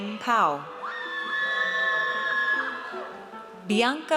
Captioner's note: audience cheers